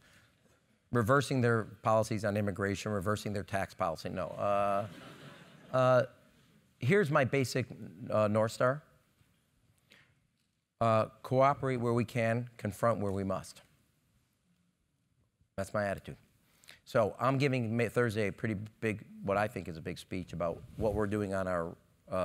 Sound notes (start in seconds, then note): 5.4 laugh